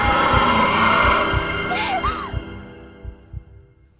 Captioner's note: gasps